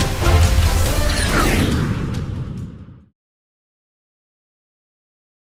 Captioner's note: dramatic music continues; airplane whooshing